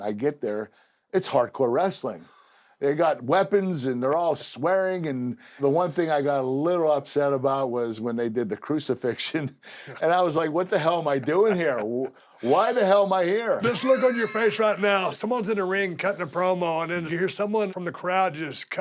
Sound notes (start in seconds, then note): 11.0 laugh